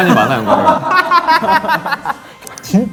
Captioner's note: laughing